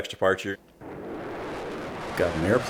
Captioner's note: jet engine